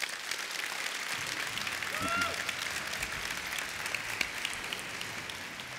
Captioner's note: applause